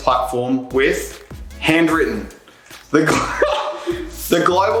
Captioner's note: chuckles